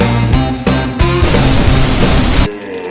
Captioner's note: tv static noise in background